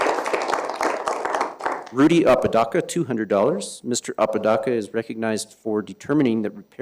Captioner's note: applause